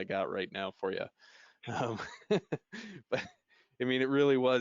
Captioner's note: laughing